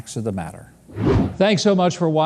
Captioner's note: wind whooshing